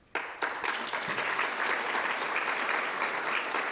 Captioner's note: applause